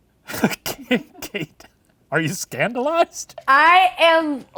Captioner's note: laughing